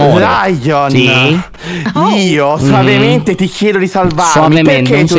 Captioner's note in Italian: tono serio